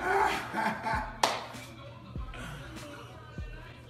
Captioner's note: laughing